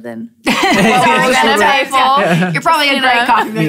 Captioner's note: laughter